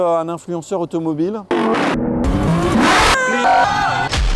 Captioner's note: engines roaring; frenzied crowd